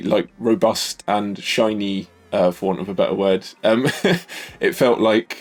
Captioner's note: laughs